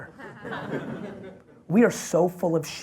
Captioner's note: audience laughs